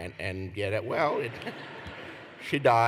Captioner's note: laughter